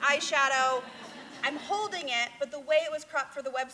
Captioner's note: laughter